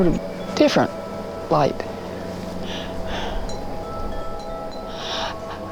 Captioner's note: wind chime chiming; Rebecca gasping